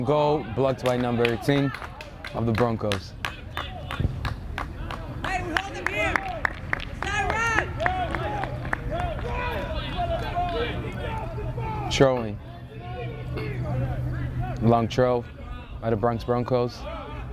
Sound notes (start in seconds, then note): 6.1 field chatter